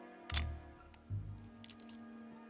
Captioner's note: camera clicks; intense music